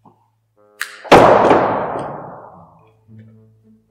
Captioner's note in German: trommelfellzerfetzendes Türzuschlagen